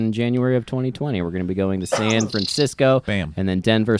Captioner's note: bird chirps